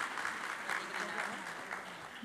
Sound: applause

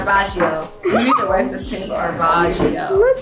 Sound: laughs

